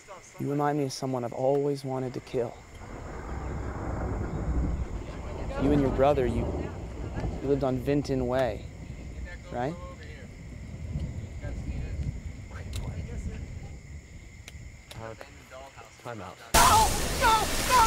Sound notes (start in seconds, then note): 3.6 distant thunder rumbles